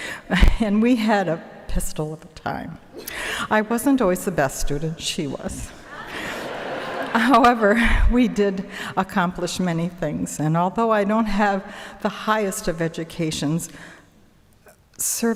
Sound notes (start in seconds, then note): 5.8 audience laughing